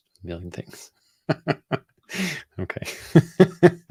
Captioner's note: laughs